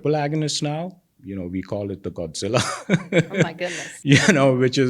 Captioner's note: laughs